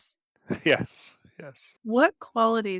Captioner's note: chuckling